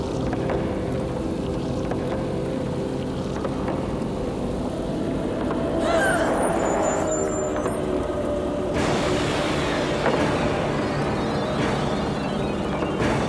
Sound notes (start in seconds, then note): 5.8 Cathy yelping; 8.7 ominous music